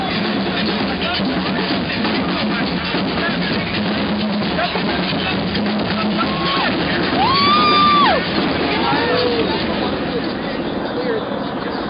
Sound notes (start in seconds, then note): 6.5 shouting